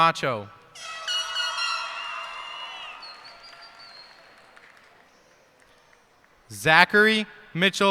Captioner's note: cheers and applause